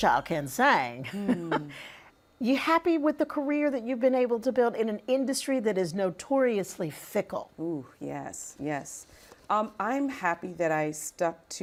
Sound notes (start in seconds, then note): 1.1 laughing